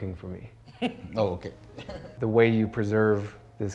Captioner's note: chuckles